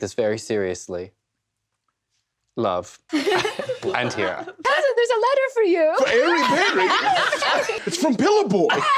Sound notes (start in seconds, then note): 3.1 cast giggles